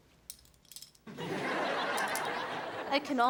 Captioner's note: audience laughs